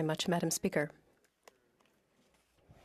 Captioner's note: speaking French